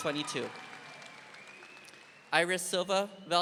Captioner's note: audience applauding